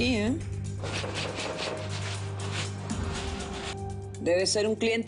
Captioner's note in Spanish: Toques en la puerta